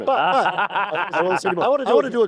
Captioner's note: laughter